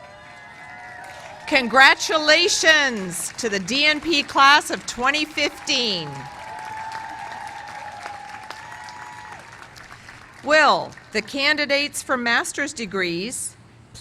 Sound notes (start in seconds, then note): 6.8 cheers and applause